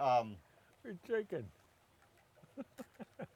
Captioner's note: laughs